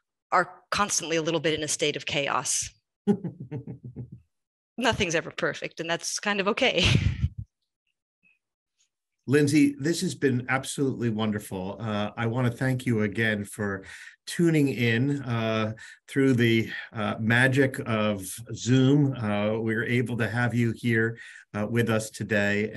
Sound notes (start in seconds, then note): 3.0 chuckles; 8.5 chuckles